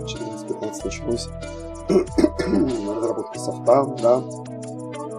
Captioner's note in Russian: кашель